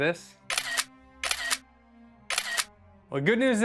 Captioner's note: camera clicking